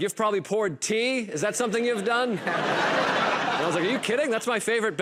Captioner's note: laughter